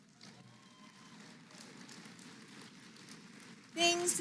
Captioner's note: applause